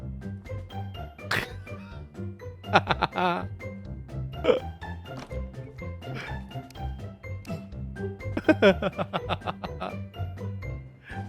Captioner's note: laughter